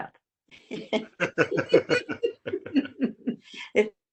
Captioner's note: laughs